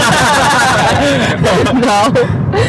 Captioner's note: laughing